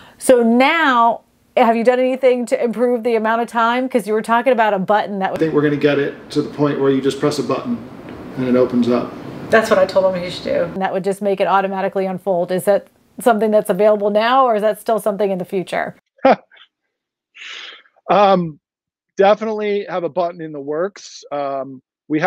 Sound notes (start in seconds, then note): 16.2 chuckles